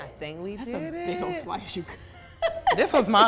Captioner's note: laughs